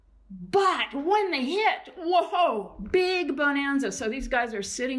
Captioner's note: exclaims